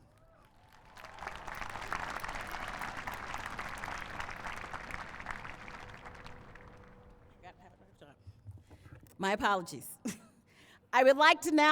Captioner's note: applause